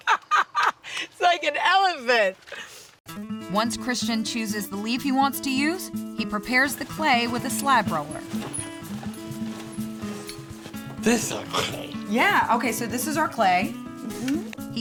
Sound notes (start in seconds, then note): 0.0 laughs; 8.2 cranking sound